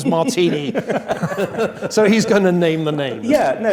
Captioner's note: laugh